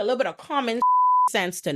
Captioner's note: beep